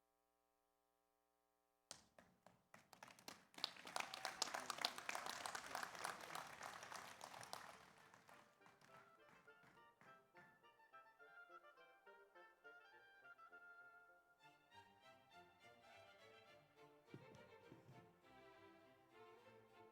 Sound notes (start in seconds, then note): 2.7 audience applauds; 8.6 slow orchestral music